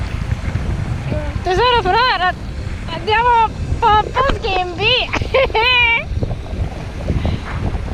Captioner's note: laughter follows